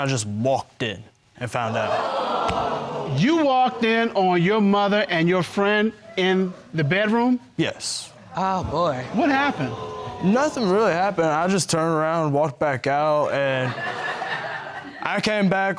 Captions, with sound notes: So, I kind of just walked in and found out. (AUDIENCE EXCLAIMING) You walked in on your mother and your friend in the bedroom? Yes. Oh, boy. What happened? Nothing really happened. I just turned around and walked back out, and... (AUDIENCE LAUGHING)